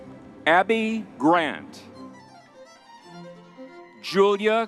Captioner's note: crowd cheering